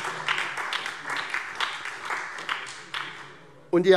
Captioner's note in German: Beifall SPD und DIE LINKE